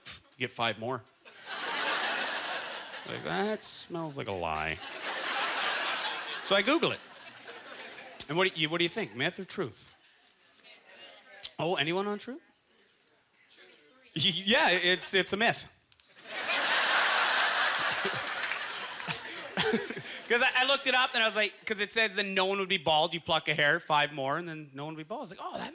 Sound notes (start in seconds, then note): 16.2 audience laughter; 16.2 chuckling